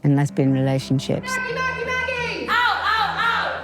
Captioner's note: chanting and shouting